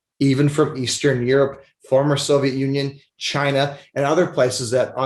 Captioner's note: none